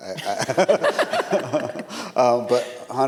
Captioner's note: all laughing